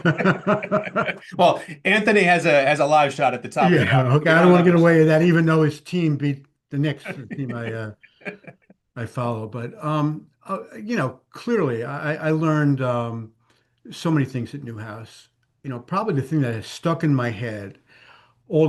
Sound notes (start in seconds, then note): 0.0 laughing; 6.9 laughs